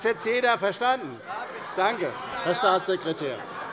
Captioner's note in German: Zurufe: Ja! - Heiterkeit